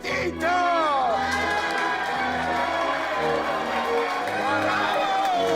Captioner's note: restaurant patrons cheering